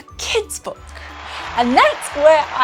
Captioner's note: clapping